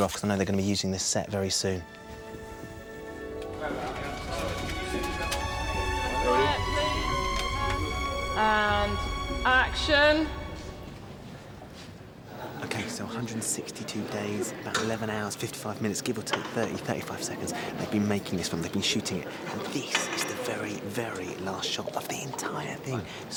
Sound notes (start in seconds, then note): 3.5 indistinct chatter; 12.5 quietly